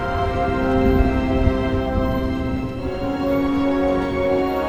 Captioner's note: thunder crashing; dramatic music